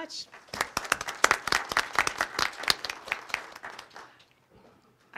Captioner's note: crowd applauding